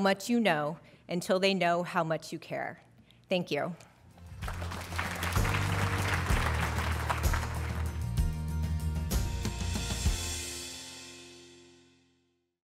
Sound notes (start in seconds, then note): 4.2 applause and Music